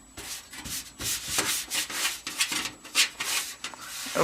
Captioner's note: rustle